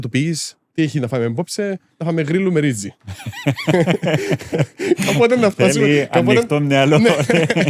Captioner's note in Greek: γέλια; γέλια